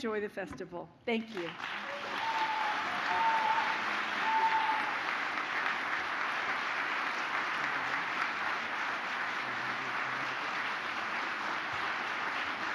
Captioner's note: applause